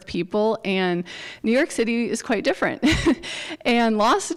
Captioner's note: chuckles